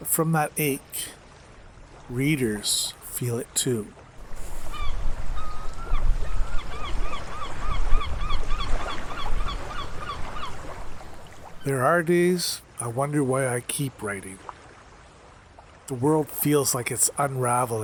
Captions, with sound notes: from that ache, readers feel it too. [Seagulls calling - Water lapping at the shore] There are days I wonder why I keep writing. The world feels like it's unraveling.